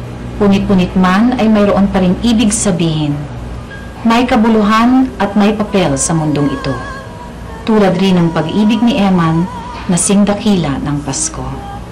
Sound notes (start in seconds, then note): none